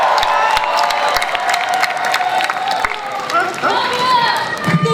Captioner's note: audience cheers